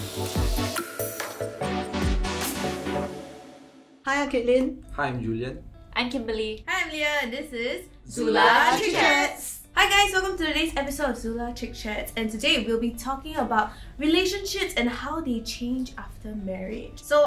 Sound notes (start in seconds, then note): none